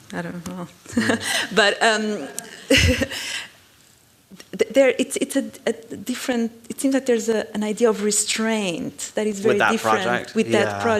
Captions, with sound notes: I don't know. But, um-- [laugh] It seems like there's an idea of restraint that is very different-- With that project?